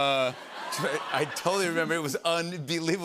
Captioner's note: laughter